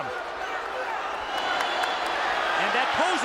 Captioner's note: crowd roaring